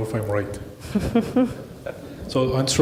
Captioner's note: laughing